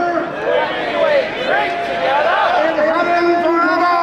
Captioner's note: crowd